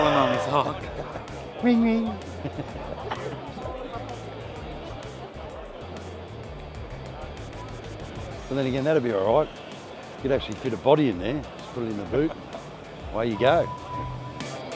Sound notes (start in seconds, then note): 2.2 chuckling